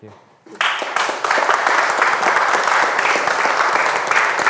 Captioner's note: audience clapping